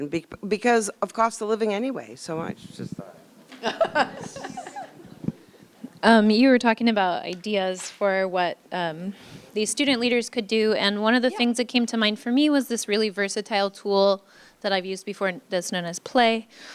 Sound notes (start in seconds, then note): 3.5 laughter